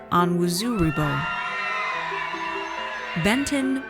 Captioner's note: audience cheers